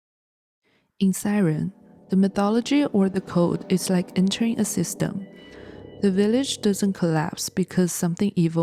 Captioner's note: siren